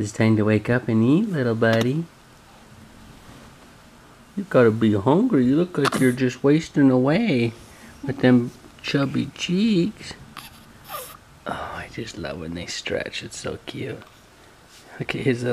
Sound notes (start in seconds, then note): 10.8 baby squeaks